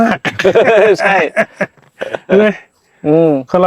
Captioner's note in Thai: เสียงหัวเราะ